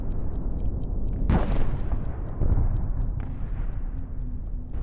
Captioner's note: thunderous rumbling explosions